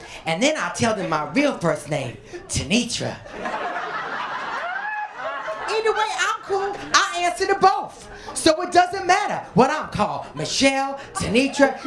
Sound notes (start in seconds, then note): 3.2 laughter